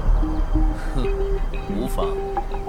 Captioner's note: humph